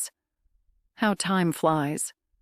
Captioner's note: voice-over